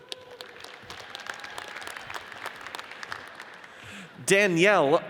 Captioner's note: audience cheers and applauds